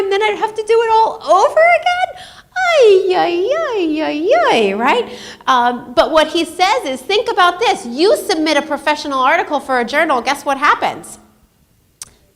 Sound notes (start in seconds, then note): 2.8 squeals